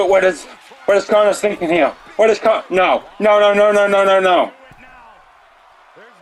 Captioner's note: applause